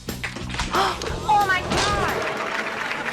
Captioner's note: gasps